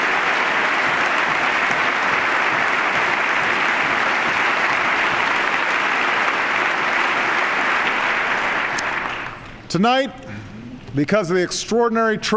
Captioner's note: applause